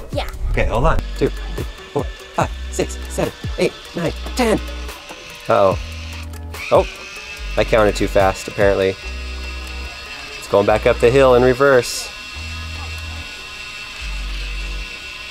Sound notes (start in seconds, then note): 5.0 robot buzzing; 9.5 robot buzzing; 12.4 robot buzzing